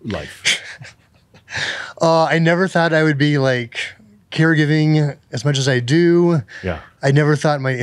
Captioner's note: chuckles